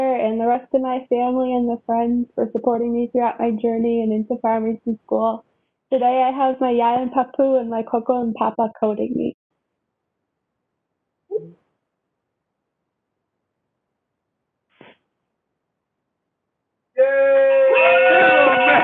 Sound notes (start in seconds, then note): 17.0 cheering